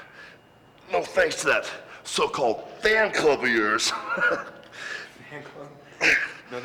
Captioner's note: chuckles